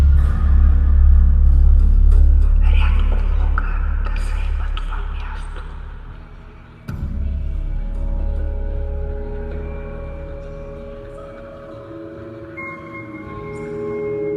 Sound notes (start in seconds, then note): 2.3 non-english speech